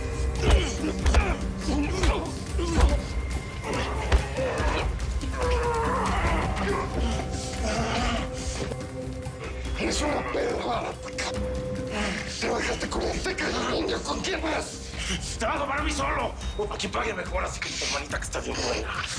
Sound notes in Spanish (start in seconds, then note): 0.3 Golpes; 3.4 Ruidos del forcejeo